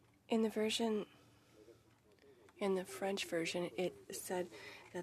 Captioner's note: speaking French